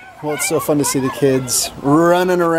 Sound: yelling

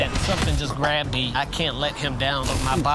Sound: gulping

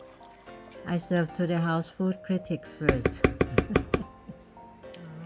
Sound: laugh

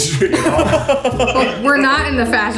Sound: all laughing

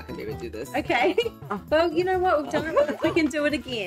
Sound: laughs

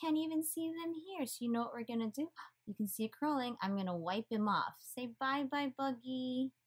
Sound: gasp

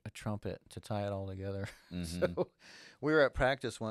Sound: chuckles

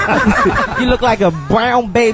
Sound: all laugh

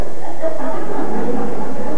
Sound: laughter

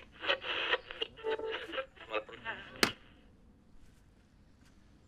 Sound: sound of radio being tuned

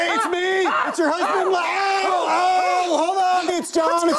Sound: screaming

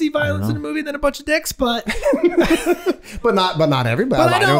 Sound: Charlie laughing

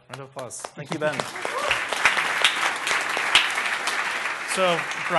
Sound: applause

